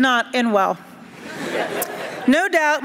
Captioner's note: laughter